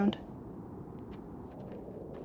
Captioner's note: footsteps in sand